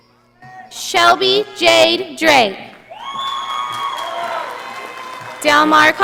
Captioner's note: audience applauding